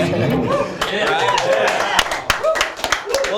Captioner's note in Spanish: aplausos